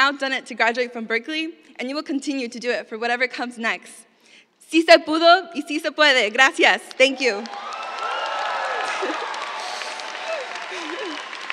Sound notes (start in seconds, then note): 4.3 speaking spanish; 8.6 cheers, applause